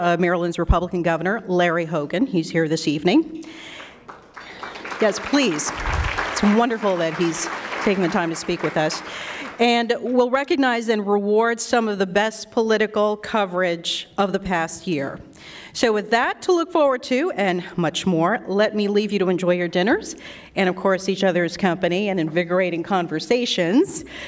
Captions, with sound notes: Maryland's Republican Governor Larry Hogan. He is here this evening. [Applause] Yes, please. It's wonderful that he's taking the time to speak with us. And we'll recognize and reward some of the best political coverage of the past year. So with that to look forward to and much more, let me leave you to enjoy your dinners and of course each other's company and invigorating conversations.